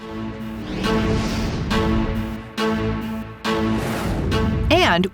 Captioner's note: tractor engine